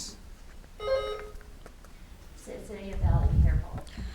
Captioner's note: buzzer beeps